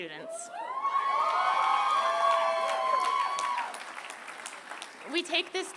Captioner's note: applause